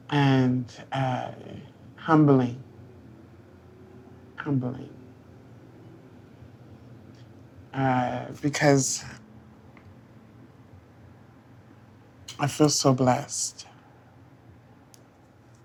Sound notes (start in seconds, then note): none